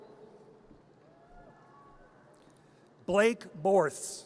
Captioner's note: audience cheers